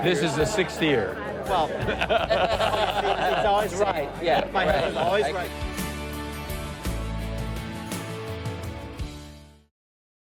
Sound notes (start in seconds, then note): 1.8 everyone laughs